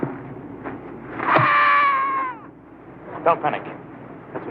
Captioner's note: scream